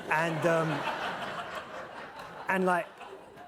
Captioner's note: laughter